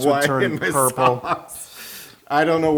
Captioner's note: laugh